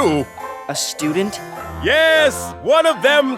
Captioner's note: slurp